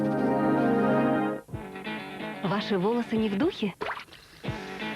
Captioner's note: gurgle